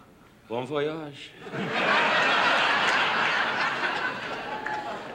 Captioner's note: laughter